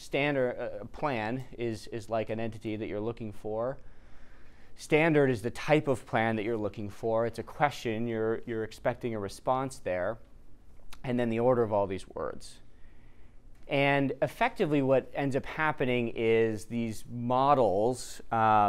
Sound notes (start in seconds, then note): none